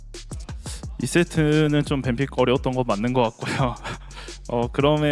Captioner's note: laugh